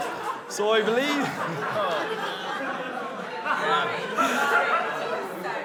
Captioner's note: guests laughing